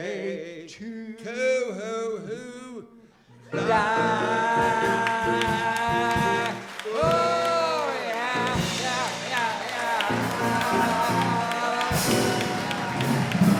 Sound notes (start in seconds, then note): 9.7 cheers and applause